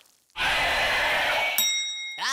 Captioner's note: scream